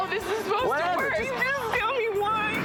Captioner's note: crying